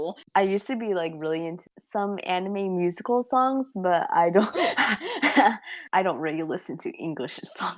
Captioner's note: laughs